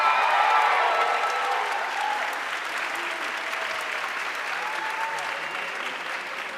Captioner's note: audience cheering and applauding